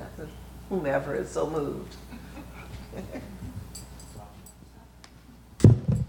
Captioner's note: laughs